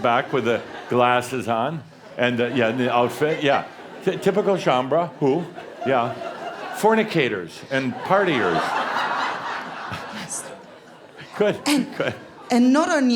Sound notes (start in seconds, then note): 6.2 laughter; 8.2 more laughter